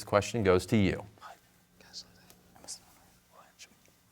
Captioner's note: whispering